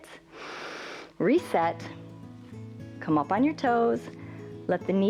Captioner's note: inhales